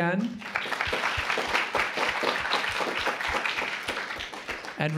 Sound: applause

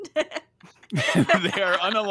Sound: all laugh

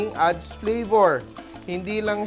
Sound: sizzle

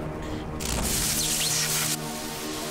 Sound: electrical zapping

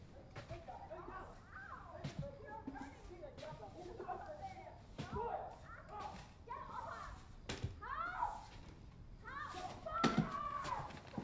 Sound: screaming

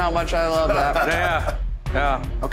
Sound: chuckles

